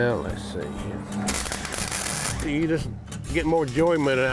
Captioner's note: welder buzzing